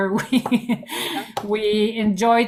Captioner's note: laughs